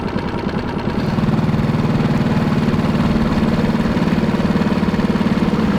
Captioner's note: boat engine running